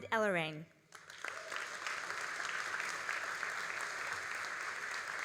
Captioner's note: all applauding